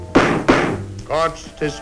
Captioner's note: slams gavel